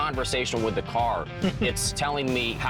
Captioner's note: laughs